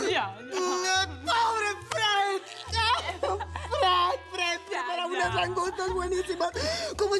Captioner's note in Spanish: Las dos ríen